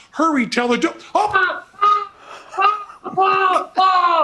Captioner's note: Teller screaming